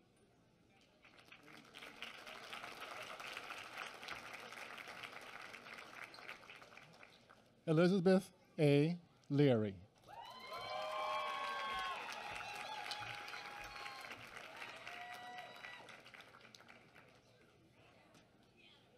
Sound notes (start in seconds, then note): 10.0 applause